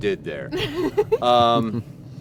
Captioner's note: riendo